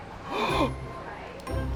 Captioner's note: gasps